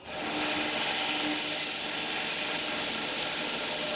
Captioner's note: log saw whirring